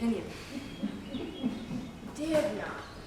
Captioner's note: laughter